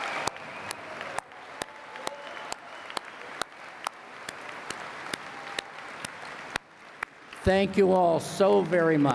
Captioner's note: applause